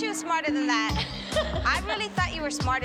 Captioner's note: laughs